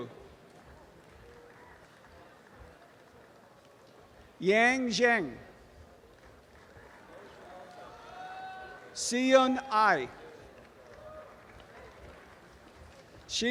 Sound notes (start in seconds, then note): 0.2 audience applause; 5.8 applause and cheering; 10.4 audience applause